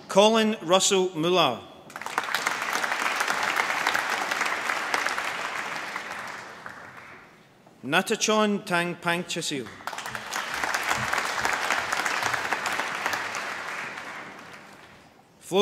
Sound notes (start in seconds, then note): 1.8 applause; 9.6 applause